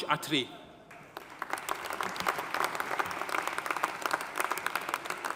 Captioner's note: audience applauding